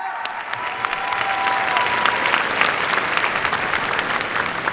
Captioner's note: cheers, applause